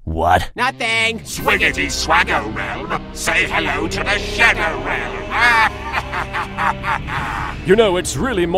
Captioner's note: laughs